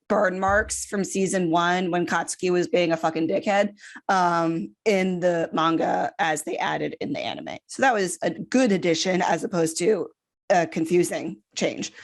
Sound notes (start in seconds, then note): none